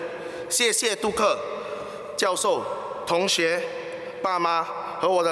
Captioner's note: foreign language